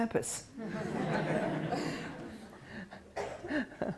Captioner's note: laughter